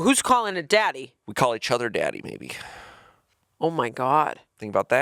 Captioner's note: sighing